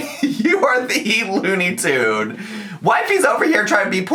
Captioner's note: laughs